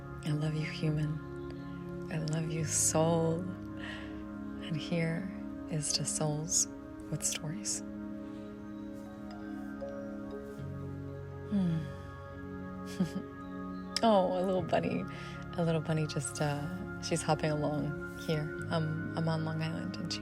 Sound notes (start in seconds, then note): 10.7 giggles